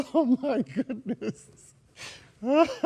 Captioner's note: laughs sarcastically